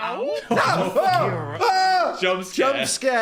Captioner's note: Dan yelling